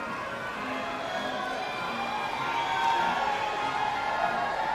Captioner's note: audience cheering